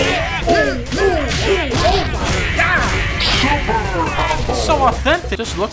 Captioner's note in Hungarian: küzdelem hangok